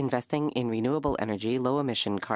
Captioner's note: speaking French